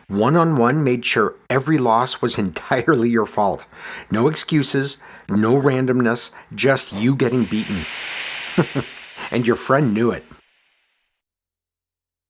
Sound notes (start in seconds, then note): 8.4 chuckles